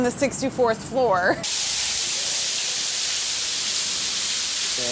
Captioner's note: water running